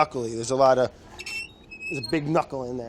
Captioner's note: squeaking